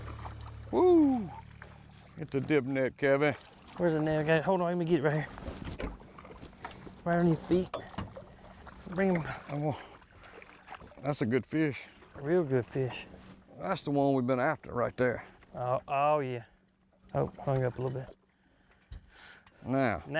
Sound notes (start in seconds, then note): 9.2 water splashes